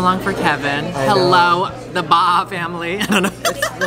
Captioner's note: laughs